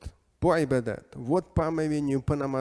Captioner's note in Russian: Говорит на арабском